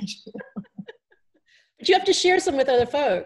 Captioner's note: laughter